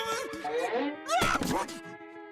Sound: grunting

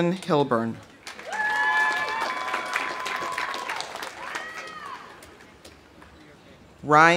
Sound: audience applauding; audience cheering

